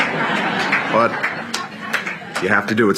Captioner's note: laughter